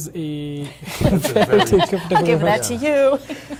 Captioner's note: everyone laughs